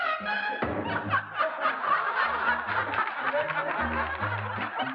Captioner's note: laughter